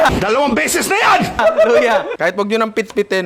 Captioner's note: laughs